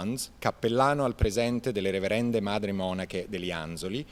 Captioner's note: speaking Italian